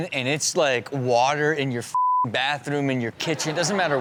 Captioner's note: beep; audience laughs